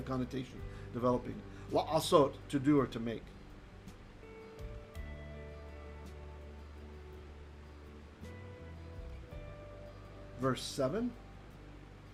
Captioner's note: Hebrew